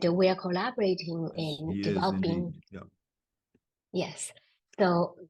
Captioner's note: faintly speaking